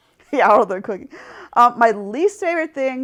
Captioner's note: laughs